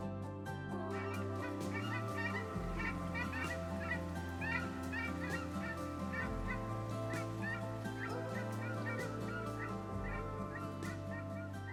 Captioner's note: geese honking. Wind whizzing through feathers